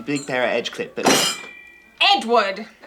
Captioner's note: bang